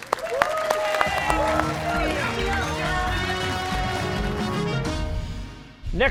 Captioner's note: cheers and applause